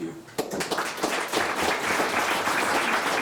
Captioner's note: all claps